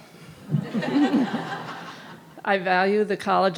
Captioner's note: audience laughing